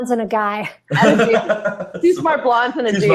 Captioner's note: laughing